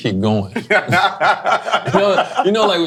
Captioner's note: laughing